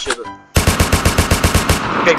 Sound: sawblade firing sound

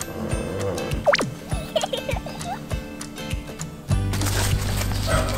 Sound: laugh

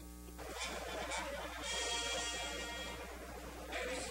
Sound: crowd murmur

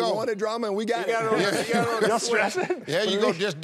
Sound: laughs

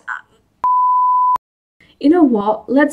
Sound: TV static beep

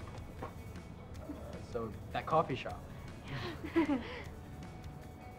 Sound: all laugh

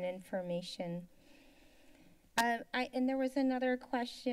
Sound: silence

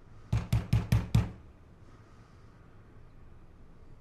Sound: loud knocking

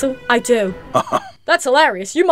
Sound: chuckles

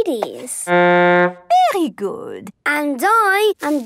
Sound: horn blowing

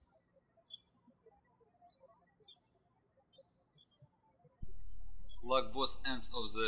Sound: birds chirping

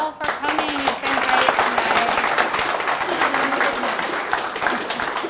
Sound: applause drowns out dialogue

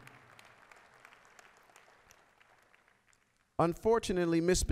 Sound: applause

